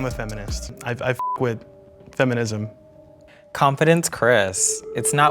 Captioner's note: beep